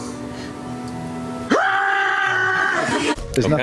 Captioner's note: screams, bone flute style